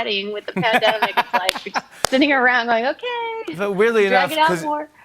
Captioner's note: laughing